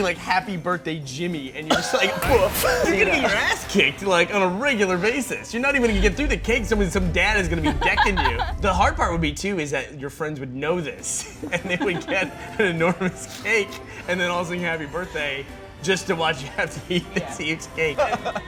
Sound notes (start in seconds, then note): 2.8 laughing